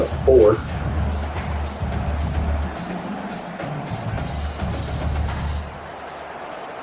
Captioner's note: crowd Noises